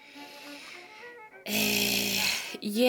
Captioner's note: takes a deep breath; weird mouth noises